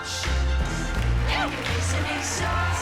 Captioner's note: applause, whoops